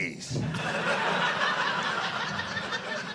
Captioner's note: audience laughing